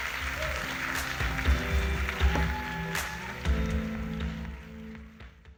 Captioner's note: audience applauding; gentle music